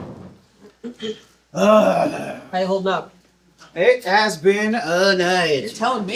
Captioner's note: tired groan